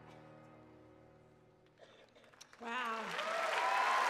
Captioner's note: cheers and applause